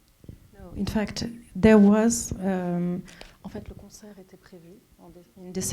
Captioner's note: speaking French